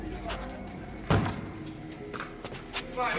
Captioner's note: thuds